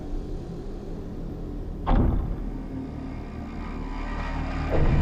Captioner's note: object thudding; soft tense music